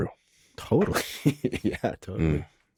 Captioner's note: laughs